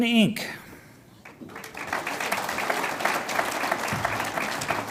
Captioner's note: audience applauds